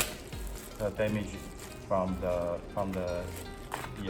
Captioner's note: electrostatic discharge